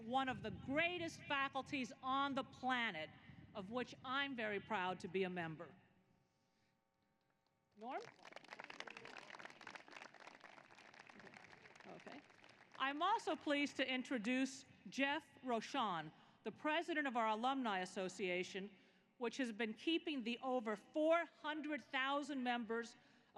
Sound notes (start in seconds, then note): 7.8 applause